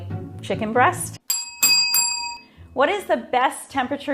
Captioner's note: bells dinging